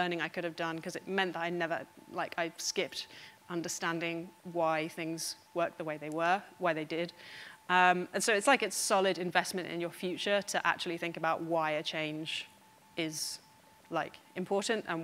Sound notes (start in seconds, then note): none